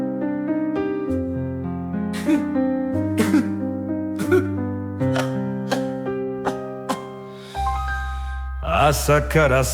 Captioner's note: cough